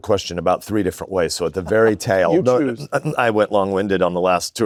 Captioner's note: chuckles